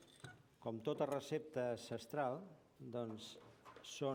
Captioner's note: non-english speech